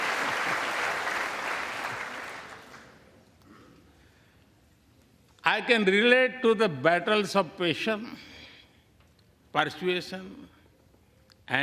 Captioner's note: applause